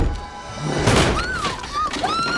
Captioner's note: thumping; wood smashes; screaming